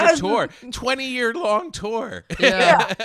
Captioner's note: laughing